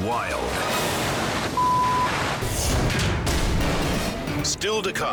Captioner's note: air whooshes; beep